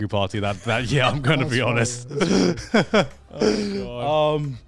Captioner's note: laughs